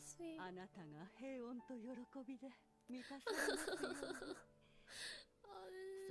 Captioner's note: in Japanese